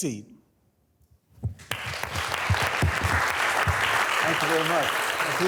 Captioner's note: students applauding